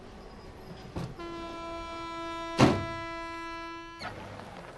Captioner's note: train horn